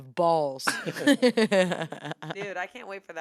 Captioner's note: everyone laughs